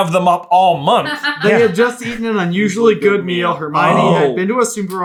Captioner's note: laughing